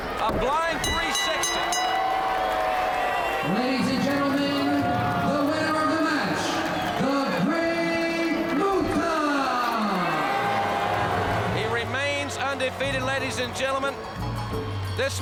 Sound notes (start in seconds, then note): 0.8 bell rings; 9.8 crowd boos